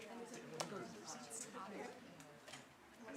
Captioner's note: background chatter